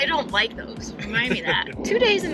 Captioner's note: laughs